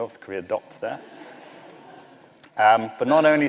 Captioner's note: laughter